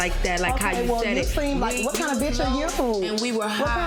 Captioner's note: overlapping chattering